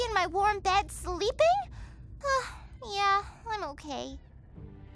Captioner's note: sighs